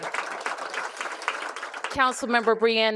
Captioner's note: applause